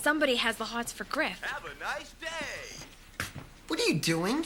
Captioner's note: voice from computer